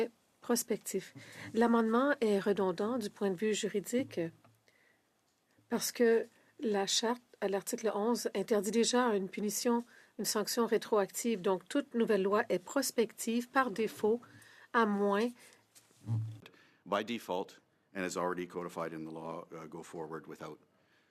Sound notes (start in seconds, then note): 4.9 speaking French